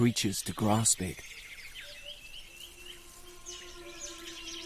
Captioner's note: birds chirping